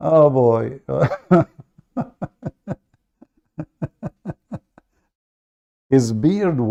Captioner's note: Ketawa